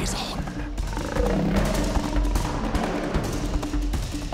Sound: snarls

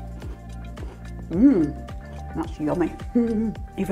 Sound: satisfied chuckle

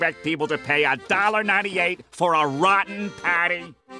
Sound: none

